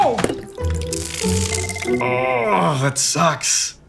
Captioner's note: frying electronics sound